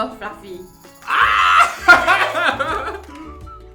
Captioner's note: laughter